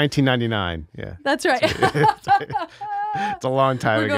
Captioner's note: laughing